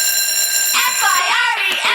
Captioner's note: alarm Blares